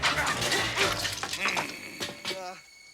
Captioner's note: laughing manically; coffee splashes; Bruno growls